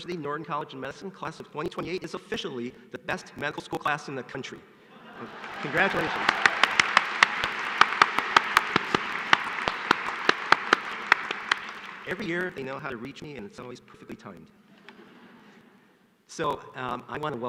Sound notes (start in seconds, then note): 1.7 applause